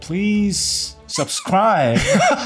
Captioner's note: playful sound effect; laughter